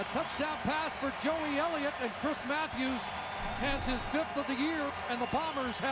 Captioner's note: applause and cheering